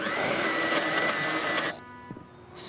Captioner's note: whirring